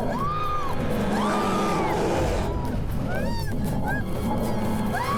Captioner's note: roaring; screaming